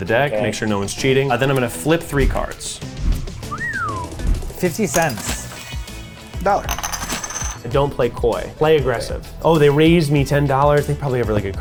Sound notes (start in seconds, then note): 3.4 wolf-whistles; 4.9 cash register drawer clunking; 6.6 coin bounces ringing